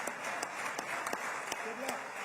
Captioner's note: applause